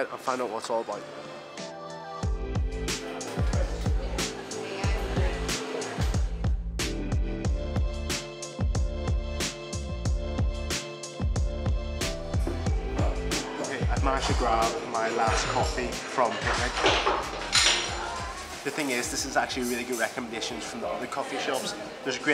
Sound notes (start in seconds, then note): 2.4 relaxed music; 3.0 people chattering